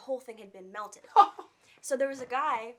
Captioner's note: laughing